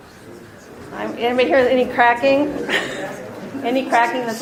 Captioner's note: laughs